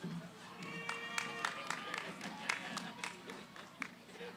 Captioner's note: cheering, applause; background conversations